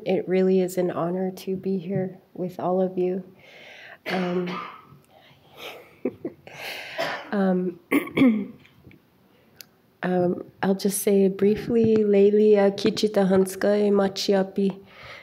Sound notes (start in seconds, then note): 5.6 chuckles; 12.4 speaking in foreign language